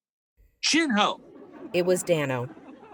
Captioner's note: audience laughing